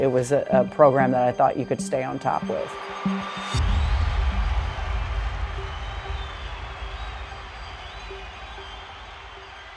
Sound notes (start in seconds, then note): 2.6 crowd cheering; 3.4 suspense music